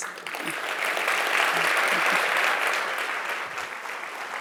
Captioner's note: audience applauding